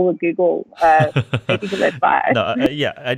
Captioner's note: laughing